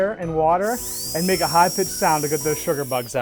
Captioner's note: dental drill whirring